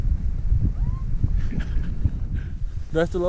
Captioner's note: laughs